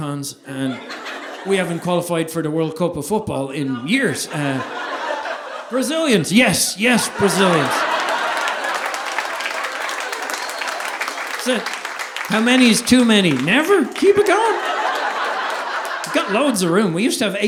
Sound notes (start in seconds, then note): 7.7 audience applauding